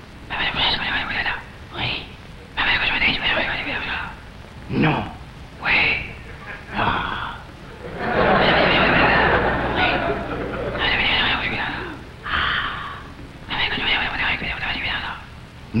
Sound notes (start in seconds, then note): 0.1 man whispers; 7.6 crowd laughs; 7.9 man whispers; 10.7 man whispers; 13.1 man whispers